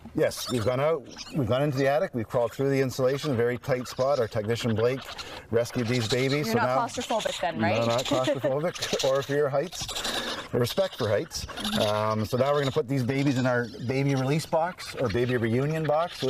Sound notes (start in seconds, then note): 7.6 chuckles